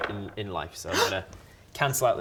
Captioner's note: gasp!